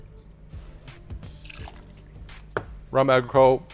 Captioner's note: liquid pours